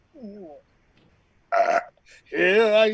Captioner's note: belch